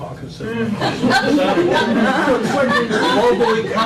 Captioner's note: laughter